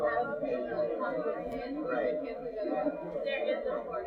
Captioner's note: students talking